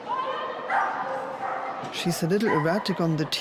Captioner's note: dog barking